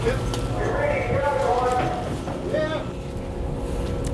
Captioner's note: man Over PA